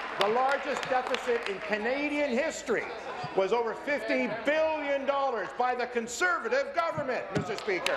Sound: applause

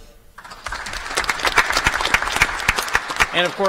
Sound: applause

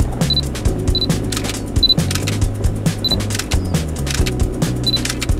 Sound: camera taking images

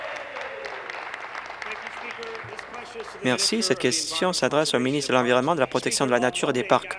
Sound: applause

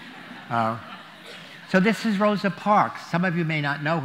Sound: laughter

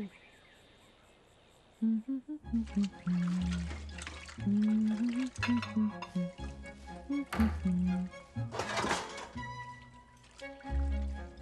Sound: humming

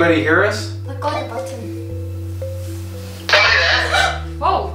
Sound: walkie talkie beeps; voice On Radio

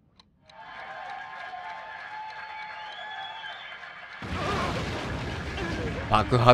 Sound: applause

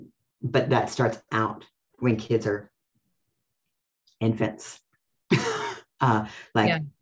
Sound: laughs

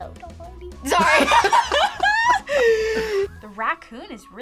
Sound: laughs

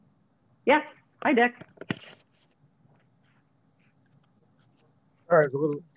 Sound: silence

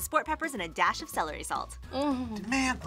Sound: groans

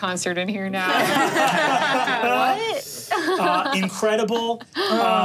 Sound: all laughing

